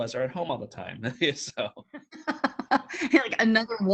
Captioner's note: chuckles